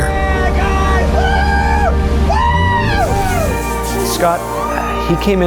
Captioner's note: cheers